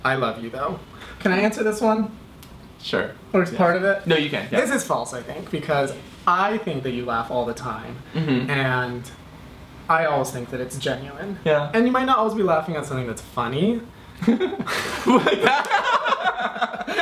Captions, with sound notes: I love you though." Can I answer this one? - Sure. - Or part of it? - No, you can, yeah. - This is false, I think, because I think that you laugh all the time and I always think that it's genuine. - Yeah. - And you might not always be laughing at something that's funny. (laughs)